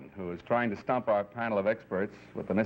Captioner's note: none